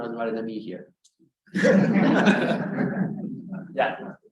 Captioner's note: all laughing